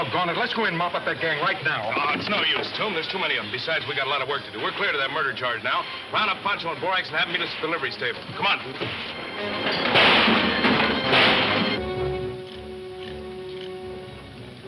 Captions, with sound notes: - Aww, it's no use, Tomb. There's too many of 'em. Besides, we got a lotta work to do. We're cleared of that murder charge now. Round up Pancho and Borax and have 'em meet us at the livery stable. Come on, Tomb. (guns firing) (soft suspenseful music)